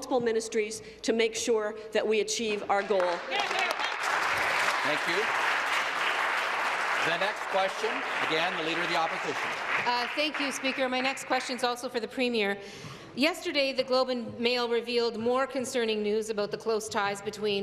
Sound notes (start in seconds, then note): 6.7 applause